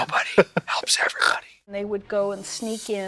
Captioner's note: Katya snorts